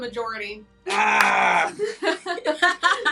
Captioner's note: laughing